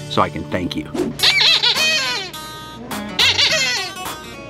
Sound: toy squeaks

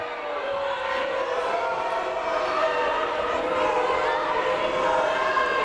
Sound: people shouting in the crowd

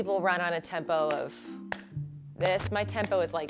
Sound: slapping

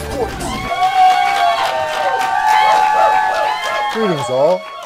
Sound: cheers

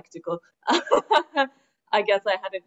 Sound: laughs

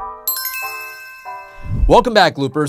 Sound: chimes ring

